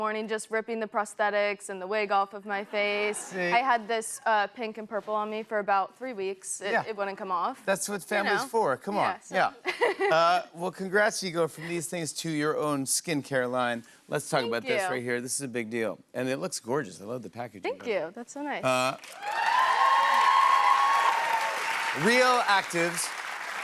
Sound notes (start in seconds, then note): 18.9 cheers and applause